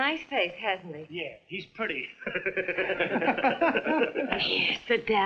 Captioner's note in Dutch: lachend